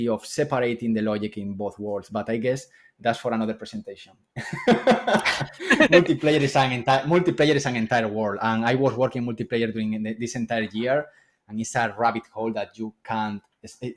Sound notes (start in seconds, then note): 4.4 laughs